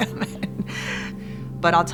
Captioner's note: chuckles